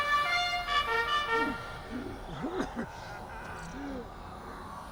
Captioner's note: gasping for breath